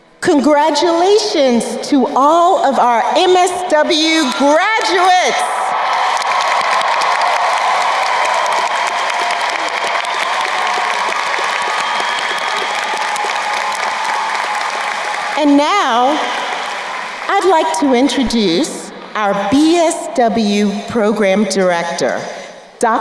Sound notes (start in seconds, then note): 5.5 crowd cheering and applauding